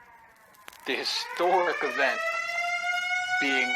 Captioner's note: siren